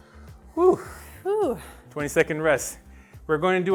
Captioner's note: whew! sighed in union